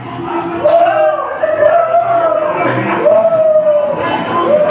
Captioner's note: happy cheering